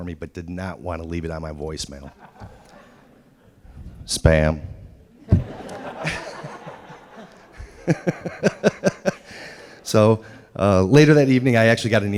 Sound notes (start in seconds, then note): 5.2 laughter